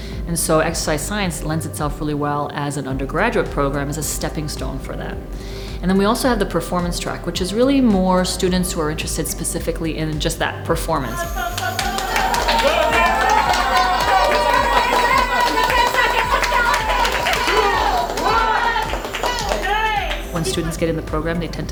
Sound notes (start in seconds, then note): 11.2 applause